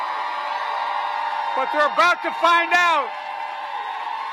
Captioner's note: applause